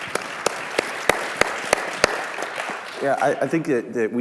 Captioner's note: clapping